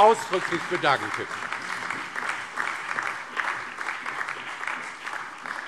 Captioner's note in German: Allgemeiner Beifall